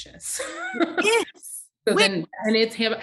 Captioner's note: laughing